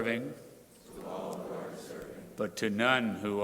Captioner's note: crowd repeating